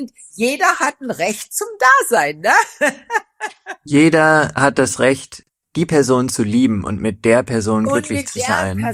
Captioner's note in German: gelächter